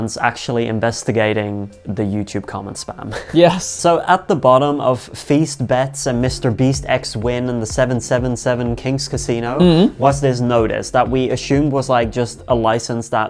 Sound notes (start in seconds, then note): 9.5 humming